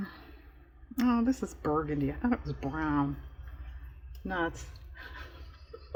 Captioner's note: laughs